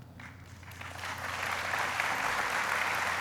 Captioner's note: applauding